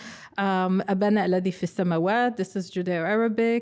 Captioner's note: speaking foreign language